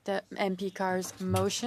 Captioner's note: speaking French